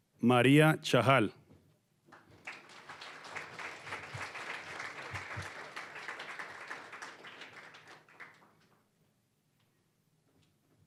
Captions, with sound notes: Maria Chahal. (applause)